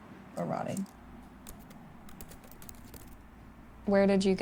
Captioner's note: computer keyboard clicking